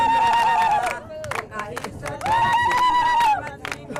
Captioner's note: cheering, singing, clapping in celebration